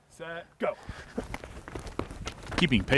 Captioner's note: feet stomping